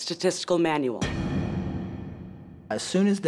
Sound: impact noise

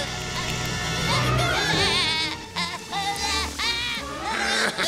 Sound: groaning; laughing

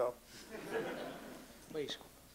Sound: laughter

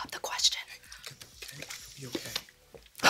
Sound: whispering

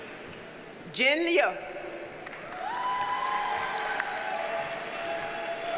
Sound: audience cheers and applauds

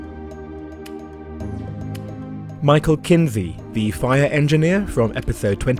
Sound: voiceover

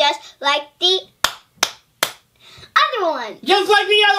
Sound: claps three times

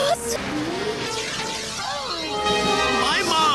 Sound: Joe groans, distorted

